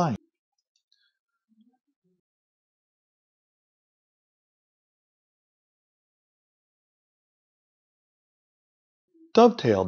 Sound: silence

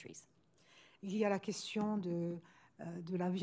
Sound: speaking french

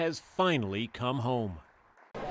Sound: cheers and Applause

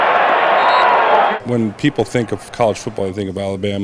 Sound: crowd, whistle

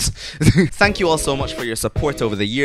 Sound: laughs

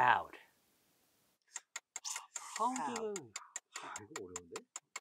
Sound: timer ticking

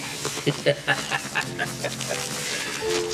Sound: laughing

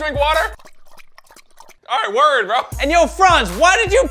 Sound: slurping

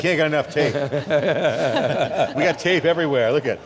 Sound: all laugh

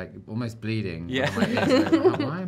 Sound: laugh

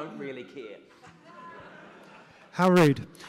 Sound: audience laughs

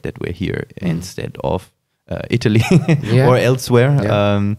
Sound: laughs

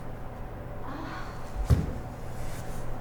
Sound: moaning in pain

